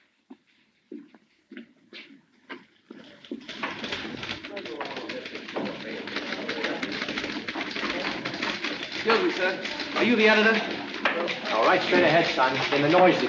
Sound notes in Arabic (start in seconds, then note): 3.7 ثرثرة الناس; 3.7 نقرات على مفاتيح الآلة الكاتبة